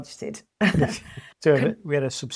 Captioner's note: laughs